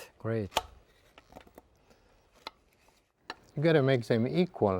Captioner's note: knife thudding